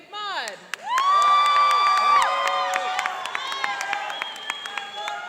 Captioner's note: cheering and applauding